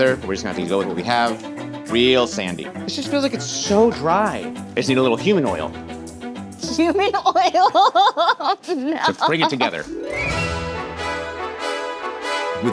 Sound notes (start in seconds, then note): 6.7 laughing; 9.1 exciting music